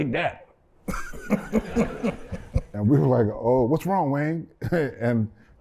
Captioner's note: laughter